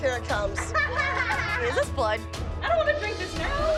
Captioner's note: laughter